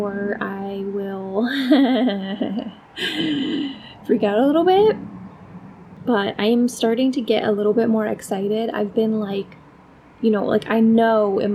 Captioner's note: nervous laugh